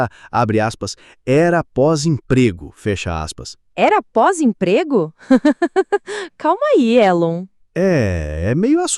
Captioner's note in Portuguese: risos nervosos